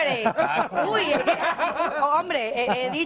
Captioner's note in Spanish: risas